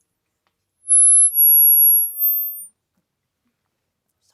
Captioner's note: feedback